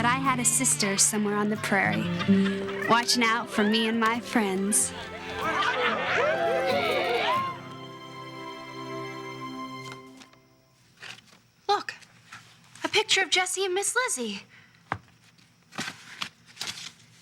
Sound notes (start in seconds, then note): 4.8 cheering